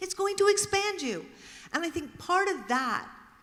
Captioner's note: mumbles